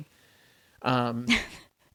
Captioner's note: laughs